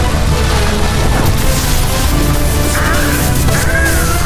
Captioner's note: crackling; Sherapont screams